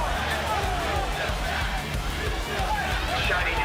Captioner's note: fans chanting